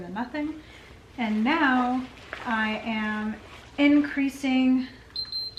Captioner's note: machine beeping